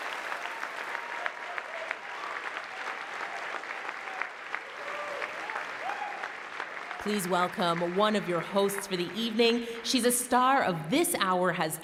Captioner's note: cheering and Applause